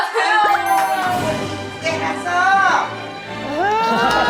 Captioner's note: automatic applause